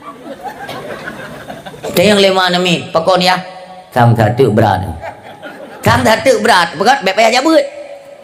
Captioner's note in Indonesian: tertawa